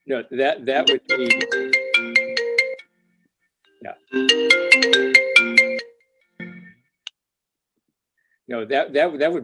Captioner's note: phone ringing